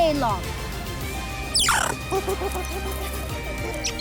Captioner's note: chattering, squeaking